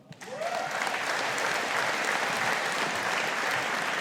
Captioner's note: audience applauding